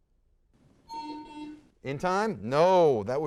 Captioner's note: buzzer sounds